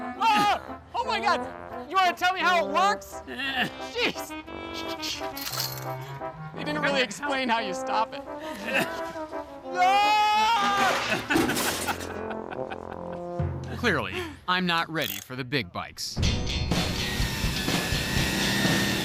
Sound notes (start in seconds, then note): 9.8 screams, crashing; 11.0 laughter